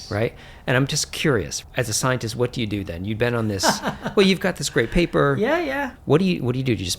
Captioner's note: laughter